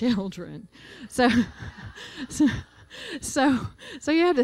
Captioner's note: laughter